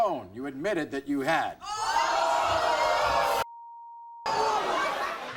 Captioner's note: audience gasping